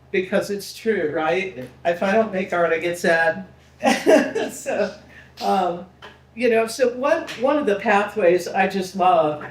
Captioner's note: laughing